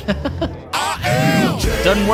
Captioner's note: chuckles